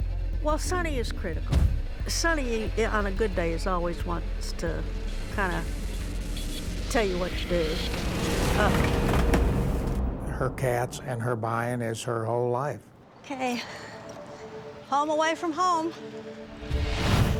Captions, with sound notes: Well, Sunny is critical. Sunny, on a good day, is always wants to kind of tell you what to do. [clutter falling] Her cats and her buying is her whole life. OK, home away from home.